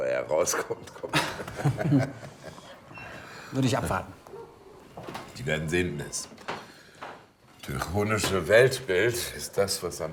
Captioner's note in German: gelächter